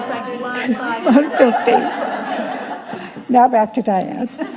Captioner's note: audience laughing